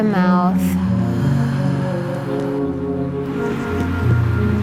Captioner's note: exhaling; soft electronic music